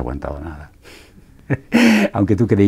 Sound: laughs

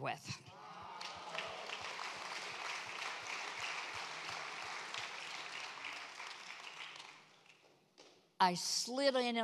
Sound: congregation applauds

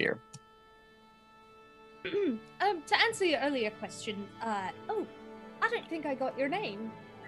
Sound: clears throat

